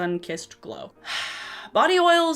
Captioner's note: sighs